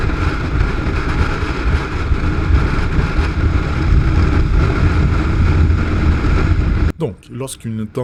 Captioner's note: sound of strong wind